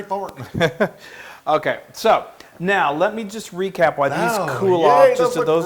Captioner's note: laugh